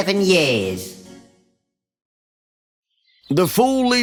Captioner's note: silence